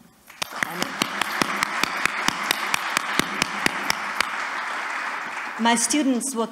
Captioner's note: applause